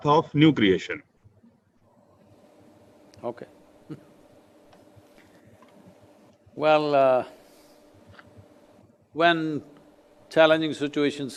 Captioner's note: laughs